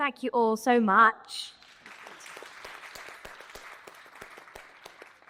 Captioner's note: all applauding